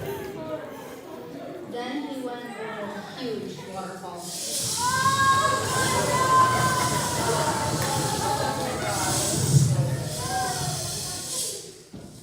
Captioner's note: rushing water sounds; laughter